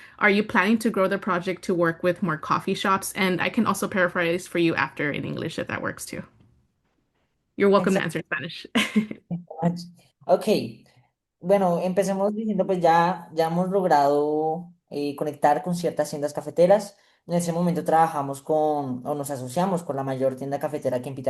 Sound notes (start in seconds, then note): 8.7 laughs; 11.4 speaking spanish